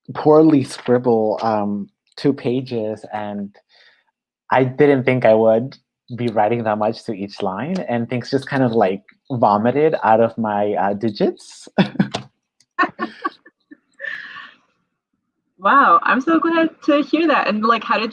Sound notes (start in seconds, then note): 12.8 both laugh